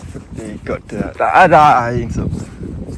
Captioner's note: disgust sounds